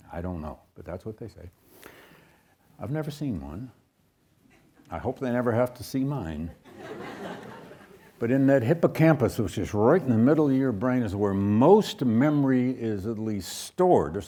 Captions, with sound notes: I don't know, but that's what they say. I've never seen one. I hope they never have to see mine. (audience laughs) But in that hippocampus, which is right in the middle of your brain, is where most memory is at least stored,